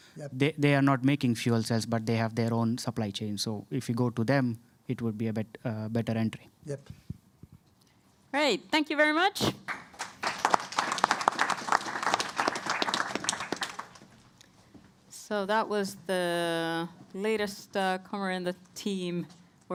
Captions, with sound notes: They are not making fuel cells but they have their own supply chain. If you go to them it would be a better entry. -Great, thank you very much. (Applause.) So that was the latest newcomer in the team, -